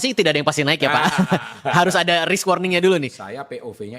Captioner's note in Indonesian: tertawa